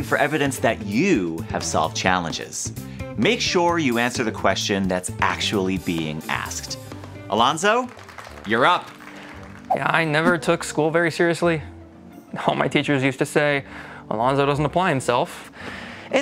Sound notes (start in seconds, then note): 7.3 applause